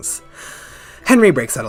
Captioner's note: breath